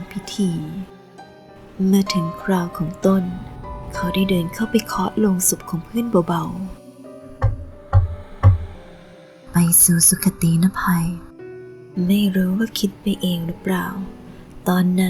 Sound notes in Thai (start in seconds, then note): 7.4 เสียงเคาะ